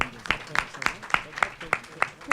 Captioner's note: applause